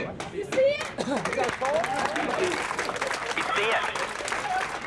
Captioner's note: crowd cheering